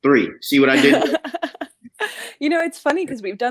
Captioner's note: laughs